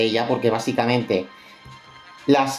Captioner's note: catching breath